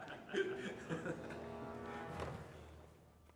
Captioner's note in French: rires